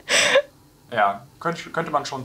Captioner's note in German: beide lachen